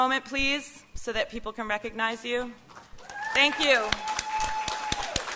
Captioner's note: applause